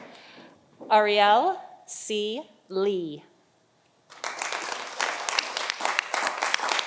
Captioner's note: audience applauding